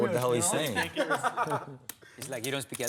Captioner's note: laughter